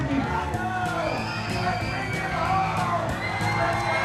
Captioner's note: shouting